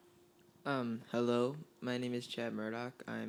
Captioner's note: voiceover